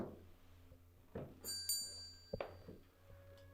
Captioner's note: bell rings